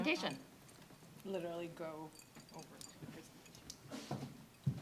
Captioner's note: mutters